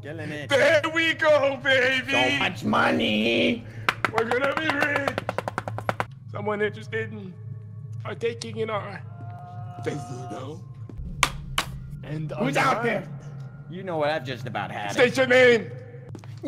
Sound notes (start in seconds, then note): 10.9 knock